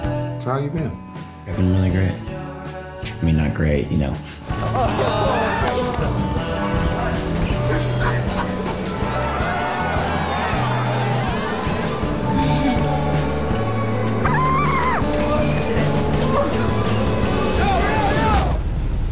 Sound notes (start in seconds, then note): 4.6 laughter; 8.3 cheering